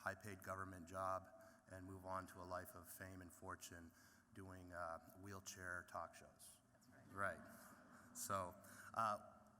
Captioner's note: laughter